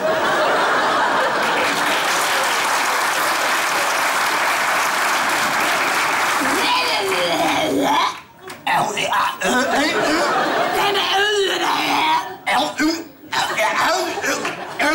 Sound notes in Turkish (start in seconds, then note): 0.0 Kahkaha ve alkış sesleri; 7.5 Zombi sesi çıkarır